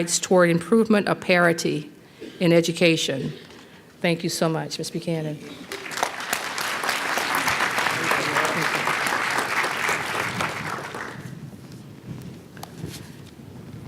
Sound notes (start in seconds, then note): 5.5 applause